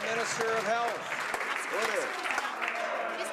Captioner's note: some Applause